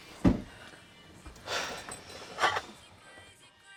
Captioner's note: sighing